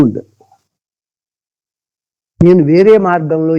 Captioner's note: speaking in Telugu